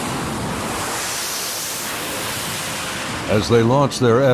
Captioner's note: jets launching